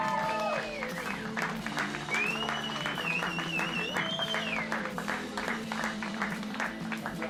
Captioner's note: cheering